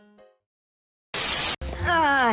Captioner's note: Static